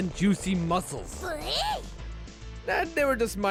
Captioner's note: Tough Eevee noises